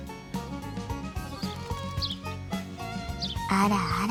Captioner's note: chirp chirp chirp